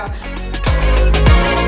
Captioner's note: laughing